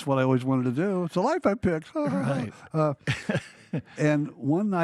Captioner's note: laughs